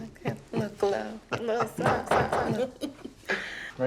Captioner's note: loud knocking